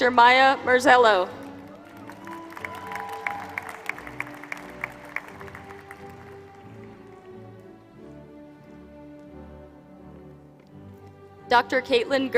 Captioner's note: applause